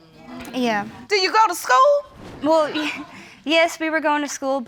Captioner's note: snickers